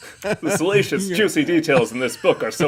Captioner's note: laughs